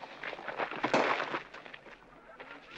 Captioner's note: whack